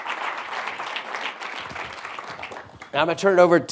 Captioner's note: audience applauding